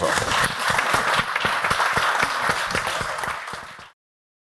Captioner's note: crowd applauds